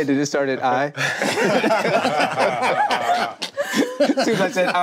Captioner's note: group laughing